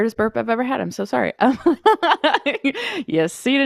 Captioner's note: laughs